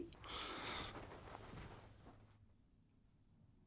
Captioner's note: Bryan sighs